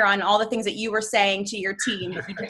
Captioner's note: chuckles